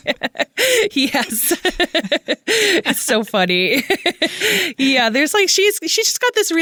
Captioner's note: laughs